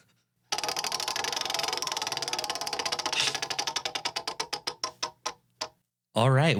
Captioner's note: wheel clicking